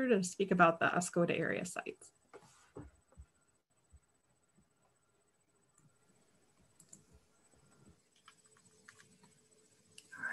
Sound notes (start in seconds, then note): 6.7 clicking